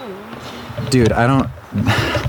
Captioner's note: sighs